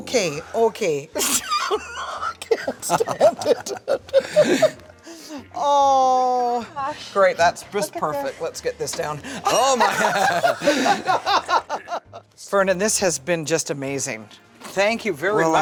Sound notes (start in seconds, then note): 1.2 laughing; 12.1 laughter